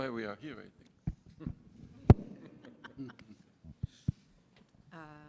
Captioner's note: laughter